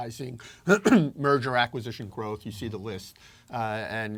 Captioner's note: cough